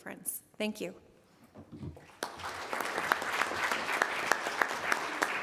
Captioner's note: audience applauding